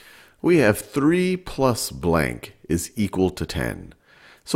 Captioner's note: voiceover